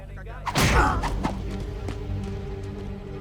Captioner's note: stick thuds; Knox grunts; tense music